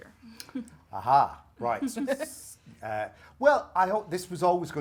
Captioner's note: Nikki laughs